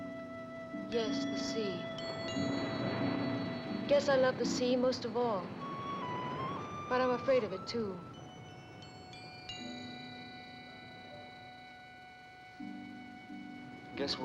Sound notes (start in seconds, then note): 2.0 waves crashing; 8.6 sentimental music